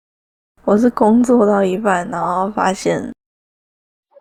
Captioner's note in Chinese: 他們在聊天